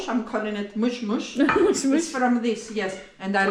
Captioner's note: laughter